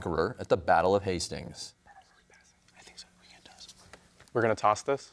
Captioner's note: whispers